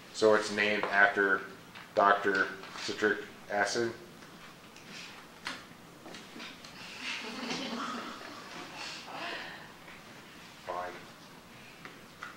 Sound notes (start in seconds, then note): 6.9 silence, then laughing